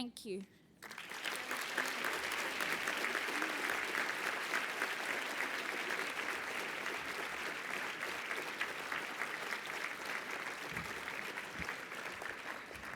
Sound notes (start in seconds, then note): 0.8 applause